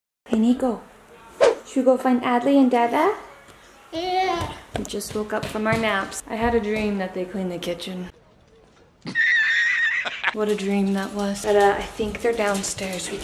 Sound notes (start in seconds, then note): 9.0 laughs